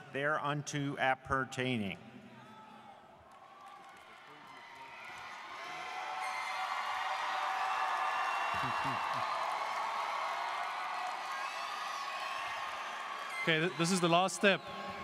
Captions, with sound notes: there unto appertaining. (students cheering and applauding) - Okay, this is the last step.